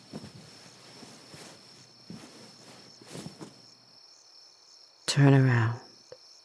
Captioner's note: rustling